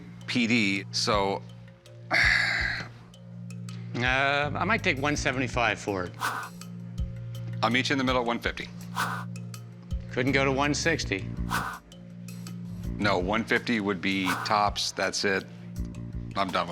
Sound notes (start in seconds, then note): 2.1 sighs